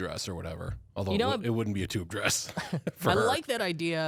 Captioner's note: laughs